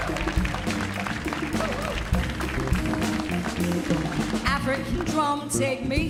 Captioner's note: audience cheers and applauds